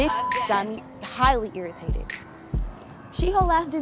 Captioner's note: beep